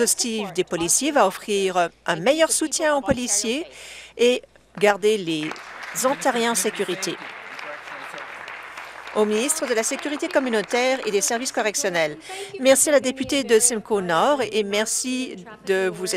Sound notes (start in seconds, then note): 7.3 applause